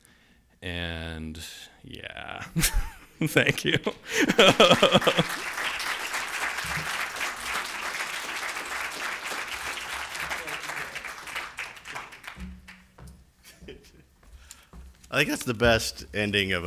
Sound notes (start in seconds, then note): 6.6 applause